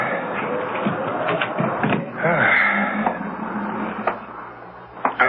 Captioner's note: sigh